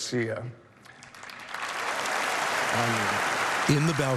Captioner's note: cheering and applause